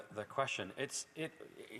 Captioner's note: speaking French